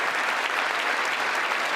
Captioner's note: applause